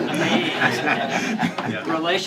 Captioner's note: laughter